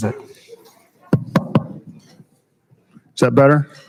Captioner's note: loud rapid tapping